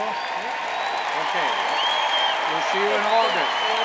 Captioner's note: cheers and applauds